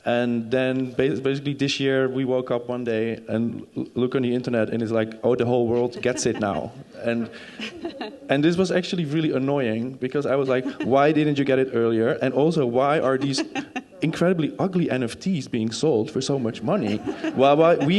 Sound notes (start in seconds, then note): 5.7 crowd laughing